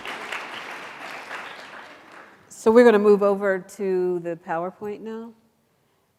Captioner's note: applause